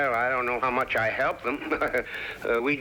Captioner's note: giggling